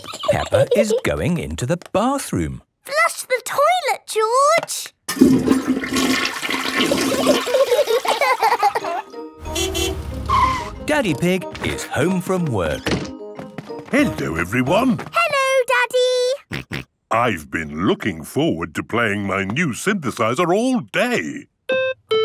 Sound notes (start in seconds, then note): 0.0 giggling; 7.3 laughter; 9.4 honking; 16.6 snorting; 22.0 playing theme song